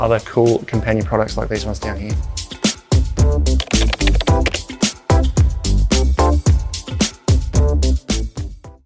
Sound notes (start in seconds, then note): 2.8 upbeat music; 3.6 keyboard clutter